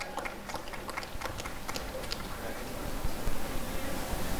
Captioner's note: applause and cheering